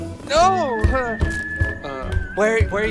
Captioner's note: groaning